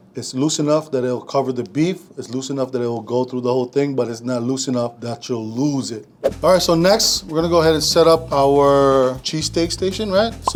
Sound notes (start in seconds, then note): none